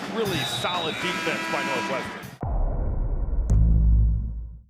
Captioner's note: buzzer